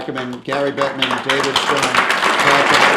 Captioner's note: applause